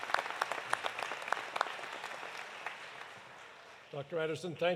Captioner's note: applause continues